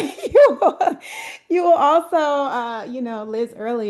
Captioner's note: laughter